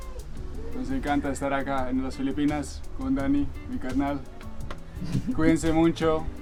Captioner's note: in Spanish